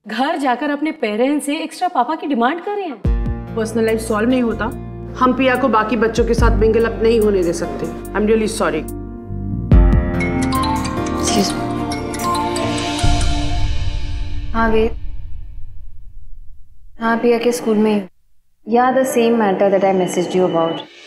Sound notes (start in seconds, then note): 10.0 Phone ringing